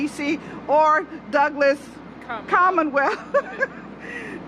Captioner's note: laughter